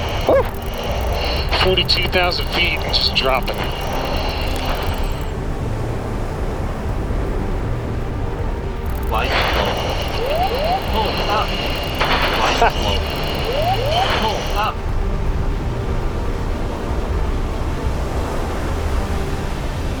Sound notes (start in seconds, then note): 0.0 inside jet ambience; 4.3 equipment clattering; 5.7 jet whooshing; 5.7 tense music; 12.4 pilot vocalizing; 12.4 siren wailing; 14.9 jet whooshing; 14.9 tense music